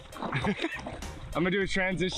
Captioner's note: laughing